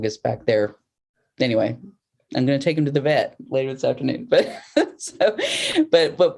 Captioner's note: laughter